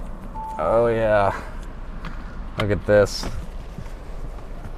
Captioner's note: beeping